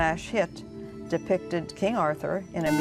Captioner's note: buzzer